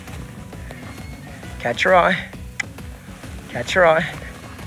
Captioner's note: mouth clicking